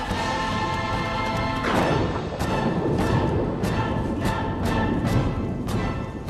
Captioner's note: thunder crashes